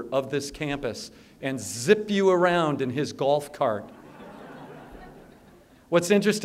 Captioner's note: laughter